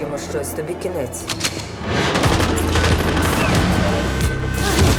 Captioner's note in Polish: odgłos przeładowania broni